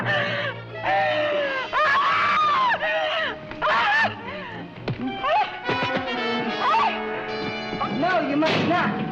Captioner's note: screaming